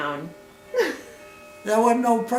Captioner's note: chuckles